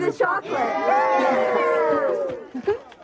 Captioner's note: cheering